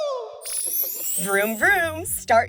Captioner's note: chime